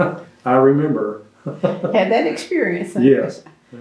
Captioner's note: laughs